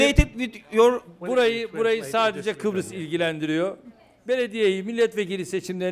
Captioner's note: non-english speech